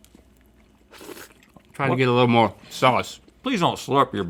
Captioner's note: slurps